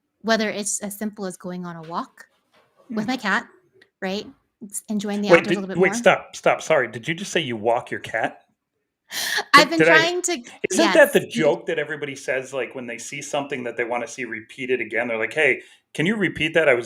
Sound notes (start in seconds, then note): 9.4 laughs